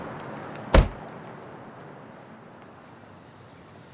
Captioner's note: door thuds